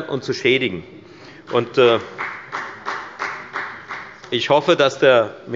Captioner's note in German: Beifall bei der FDP